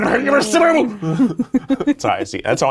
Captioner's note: laughing